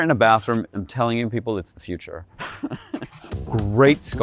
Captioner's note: laughs